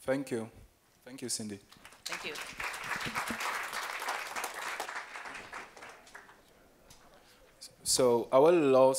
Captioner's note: applause